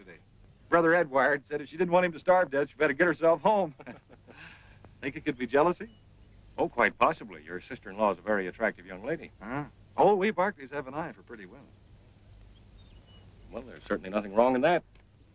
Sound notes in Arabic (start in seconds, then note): 1.8 يضحك